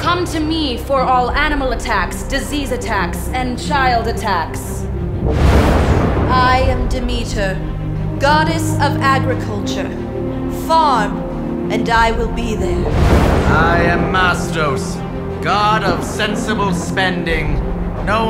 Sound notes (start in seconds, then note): none